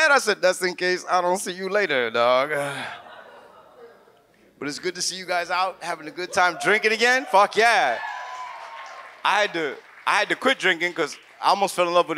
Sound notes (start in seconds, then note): 2.8 audience laughs; 8.1 audience cheers